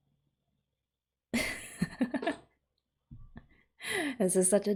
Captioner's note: laughs